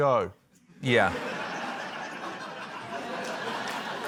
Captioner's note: laughter